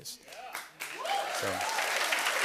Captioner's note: cheering and applause